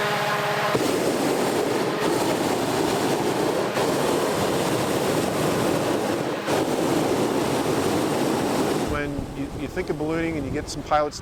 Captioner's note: hot air balloon sounds